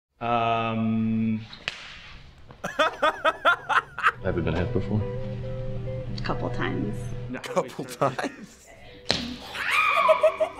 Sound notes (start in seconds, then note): 1.6 slapping sound; 7.9 laughs